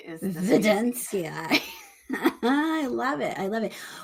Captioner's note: chuckles